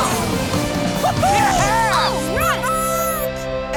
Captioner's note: cheering